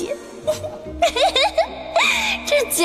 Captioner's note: laughs heartily